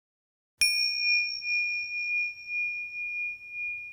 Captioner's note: bell chimes